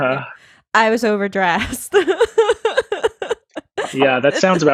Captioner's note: laughs